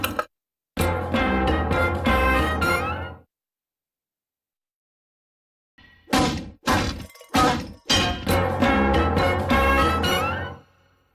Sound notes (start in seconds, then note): 0.9 cartoon music plays; 6.7 banging noises; 7.1 cartoon music playing